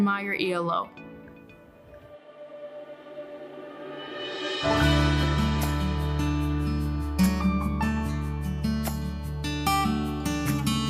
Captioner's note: speaking spanish